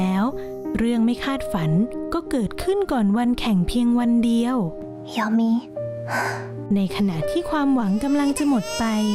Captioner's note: sound of inhaling